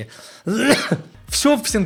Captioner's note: cough masking a burp